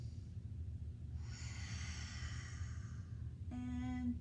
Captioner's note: inhale; exhale